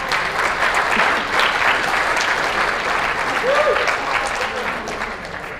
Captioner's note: applause, cheers